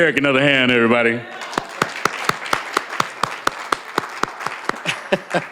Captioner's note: applause